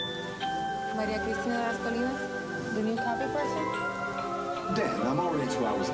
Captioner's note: speaking Spanish